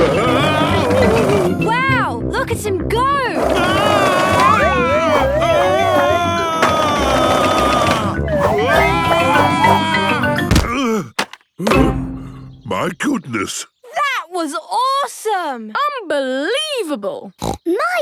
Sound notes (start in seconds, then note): 4.0 shouting; 11.7 panting